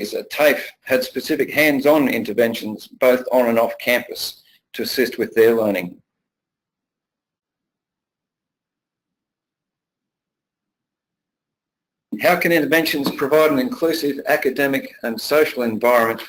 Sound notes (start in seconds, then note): 6.0 pause